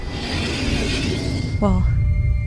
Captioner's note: train door closes